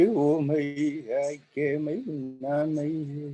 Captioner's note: chanting